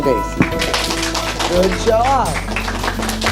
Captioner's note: clapping